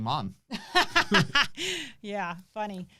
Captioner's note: laughs